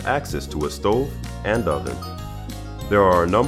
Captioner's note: none